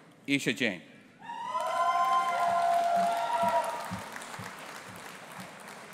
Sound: audience applauding and cheering

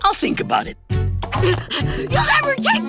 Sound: gasping

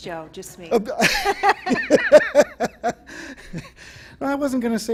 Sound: laughter

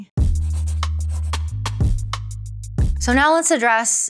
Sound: upbeat music; pencil writing

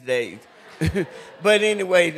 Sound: laughter

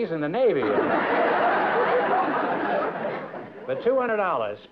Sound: laughter

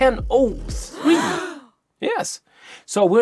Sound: gasps

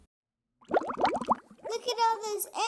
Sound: sounds of bubbles

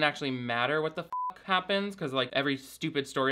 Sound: beep

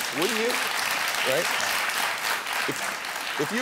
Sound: audience applauding

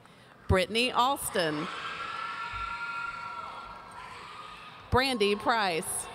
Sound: audience cheering

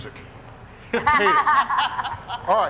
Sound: people laughing

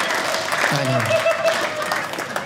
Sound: audience applauding

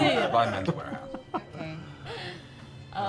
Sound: laughing

